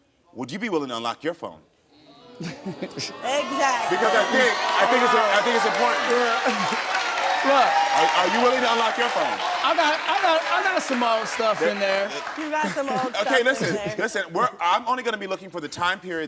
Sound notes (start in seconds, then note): 2.0 audience groans; 6.1 audience applauds